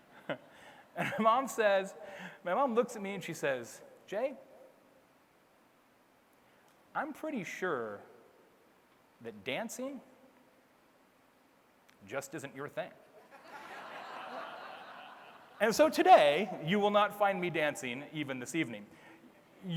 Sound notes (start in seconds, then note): 13.3 audience laughs